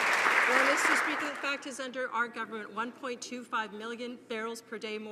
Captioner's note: applause